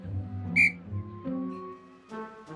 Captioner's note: tweet